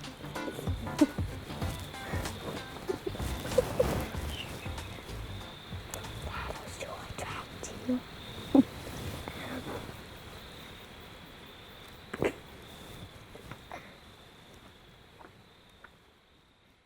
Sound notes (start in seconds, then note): 1.8 whispering; 7.6 giggles